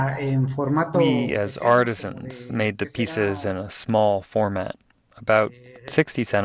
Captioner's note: through translator